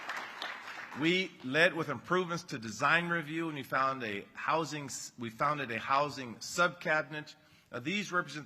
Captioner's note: applause